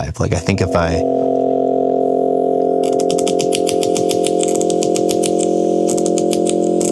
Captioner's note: sound effects buzzing and clicking